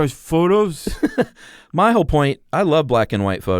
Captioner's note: laughs